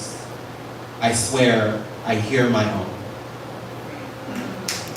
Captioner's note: applause